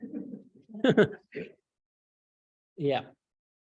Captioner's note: laughs